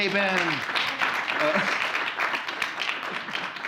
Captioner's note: applause